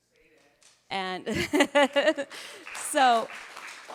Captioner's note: chuckling; audience applauding